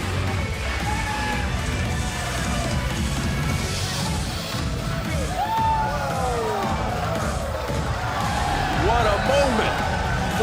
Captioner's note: crowd cheering